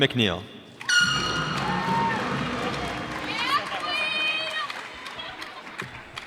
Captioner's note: cheers and applause